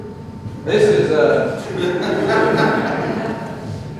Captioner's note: laughter